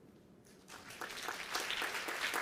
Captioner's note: applause